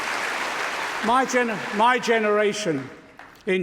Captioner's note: applause